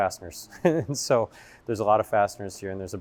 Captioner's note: laughs